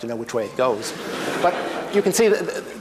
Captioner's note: laughter